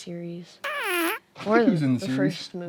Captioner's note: whoopie cushion sound effect